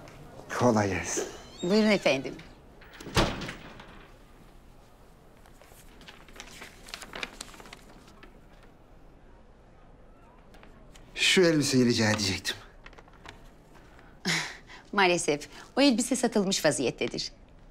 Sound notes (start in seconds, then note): 2.7 the door closing sound; 4.8 paper sound